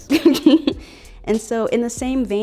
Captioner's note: laughing